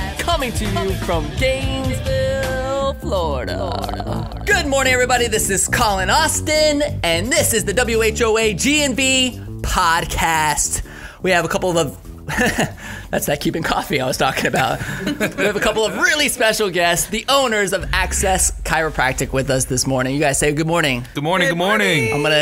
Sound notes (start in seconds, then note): 12.1 studders - laughing; 14.4 both laughing